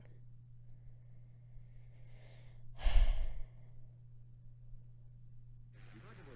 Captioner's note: sigh; buzzing on TV with yelling in the background, then whacking sounds